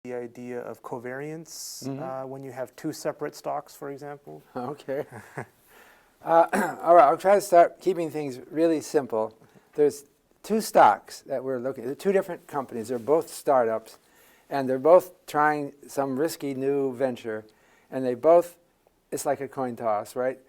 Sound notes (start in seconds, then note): 6.4 cough